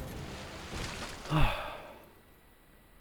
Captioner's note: sighs